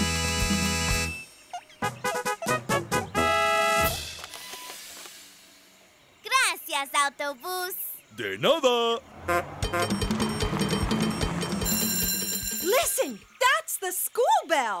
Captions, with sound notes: [trumpet playing] -Gracias, Autobús! -De nada! [honking] [upbeat music playing] [school bell ringing] Listen, that's the school bell!